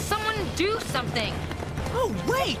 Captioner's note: none